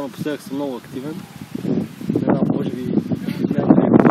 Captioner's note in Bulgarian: чува се вятър